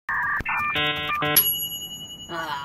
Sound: computer Noises; ding

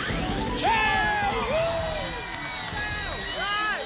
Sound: cheering

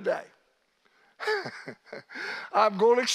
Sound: laughing

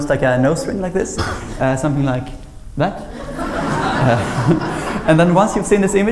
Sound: laughter

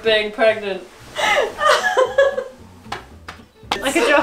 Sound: laughs

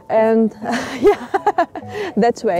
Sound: laughs

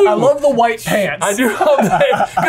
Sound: laughs

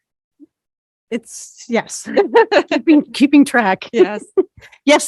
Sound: laughs

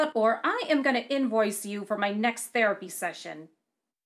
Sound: none

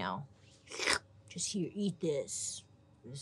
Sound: slurps

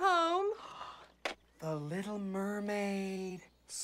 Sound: gasp

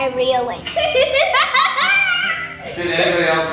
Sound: laughter

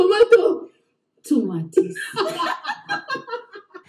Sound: both giggling

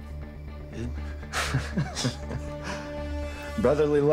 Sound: both chuckling

